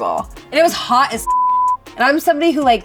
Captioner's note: beep